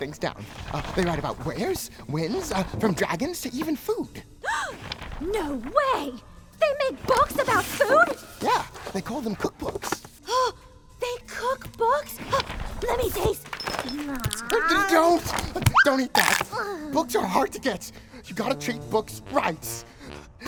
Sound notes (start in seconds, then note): 4.5 gasp!